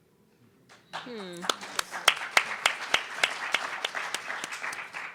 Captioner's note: audience applauding